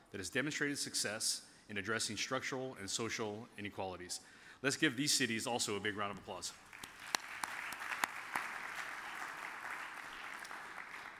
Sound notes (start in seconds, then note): 6.7 audience applauds